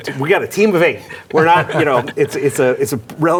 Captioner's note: panelists laugh